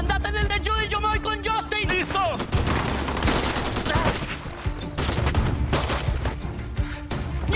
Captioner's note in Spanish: Disparos